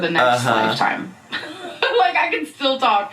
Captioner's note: laughs